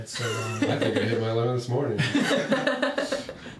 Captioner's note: laughing loudly